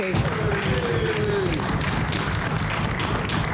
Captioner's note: some Applause